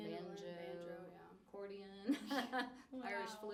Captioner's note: laughs